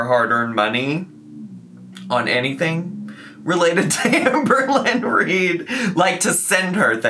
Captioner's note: laughs